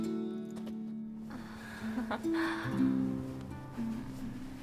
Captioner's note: giggle